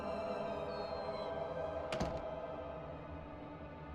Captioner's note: door closes